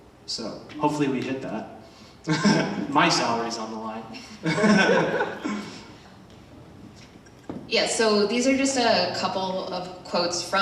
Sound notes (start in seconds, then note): 2.3 chuckles; 4.4 laughs